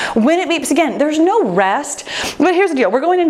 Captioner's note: none